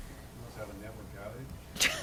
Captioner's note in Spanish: risas